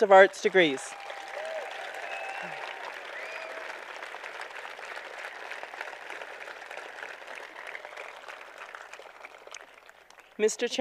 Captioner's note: applause